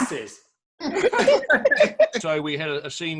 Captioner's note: group giggles